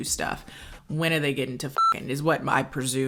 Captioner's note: beep